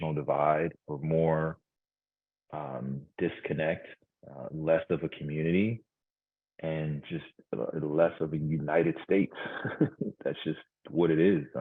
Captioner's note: laughs